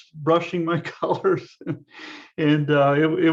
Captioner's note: laughs